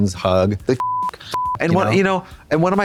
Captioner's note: beep